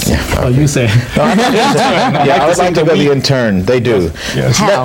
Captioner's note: laughing